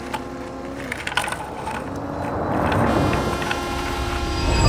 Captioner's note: car engine revs